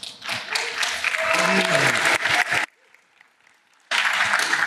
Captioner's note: applause